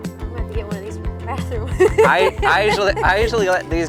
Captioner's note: laughs